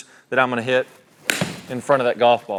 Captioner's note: golf club hits golf ball